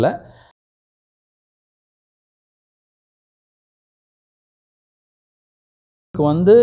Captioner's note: mute